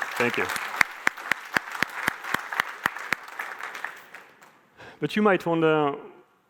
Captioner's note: applause